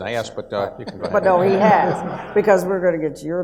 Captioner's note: audience laughs